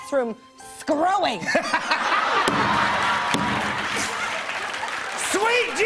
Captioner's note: laughter